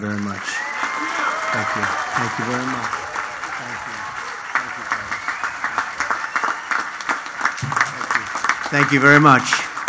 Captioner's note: applause